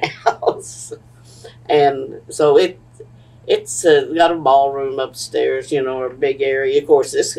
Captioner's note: laughs